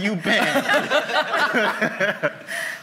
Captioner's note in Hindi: हँसी